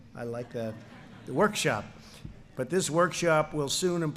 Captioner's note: laughter